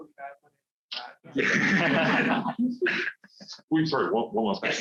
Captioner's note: laughter